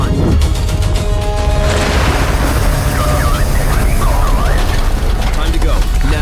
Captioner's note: devastation roaring